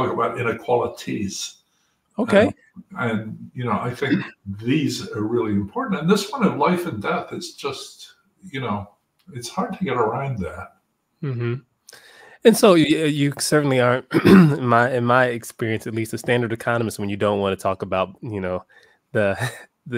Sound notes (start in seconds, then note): 14.0 cough